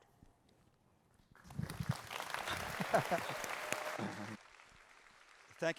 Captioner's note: applause